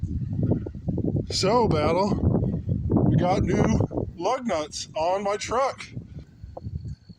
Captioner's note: wind buffeting